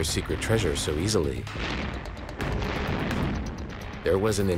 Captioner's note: explosions